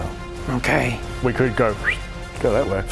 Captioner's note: whistles